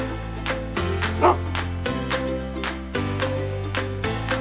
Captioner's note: dog barks